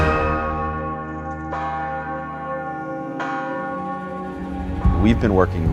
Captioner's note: bells ringing